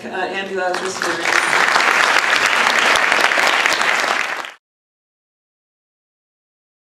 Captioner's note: applause